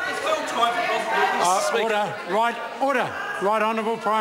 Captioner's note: members shout